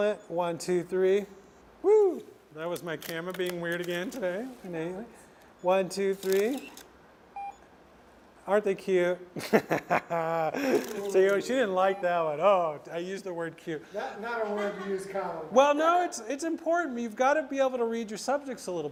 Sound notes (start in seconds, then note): 9.4 laughs